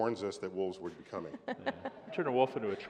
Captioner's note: laughter